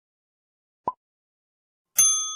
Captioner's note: pop